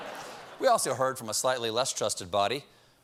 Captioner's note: laughter